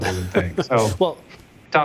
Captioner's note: laughs